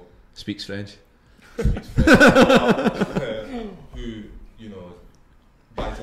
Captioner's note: group Laughs